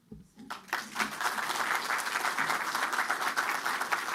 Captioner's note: applause